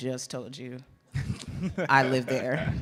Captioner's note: laughs